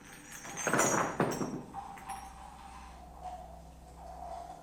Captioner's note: objects clattering